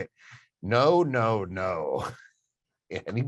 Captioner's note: chuckles